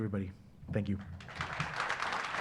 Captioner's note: applause